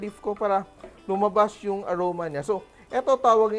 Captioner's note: sizzle